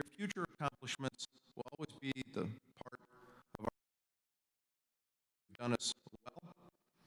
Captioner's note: audio cuts out